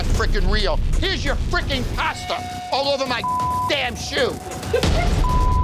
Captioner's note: beep